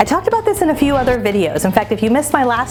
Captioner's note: transition whooshes